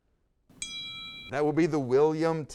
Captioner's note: bell dings